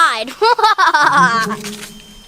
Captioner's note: laughs